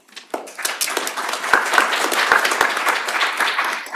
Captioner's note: applause